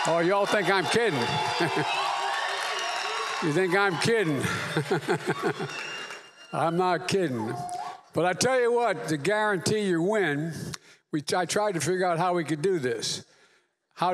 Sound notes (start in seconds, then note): 4.4 laughs